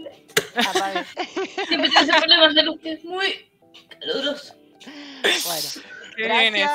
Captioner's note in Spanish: risas; risas